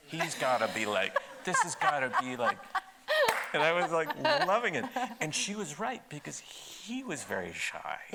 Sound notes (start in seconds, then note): 0.2 laughing; 3.2 claps